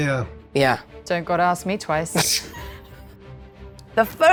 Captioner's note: chuckles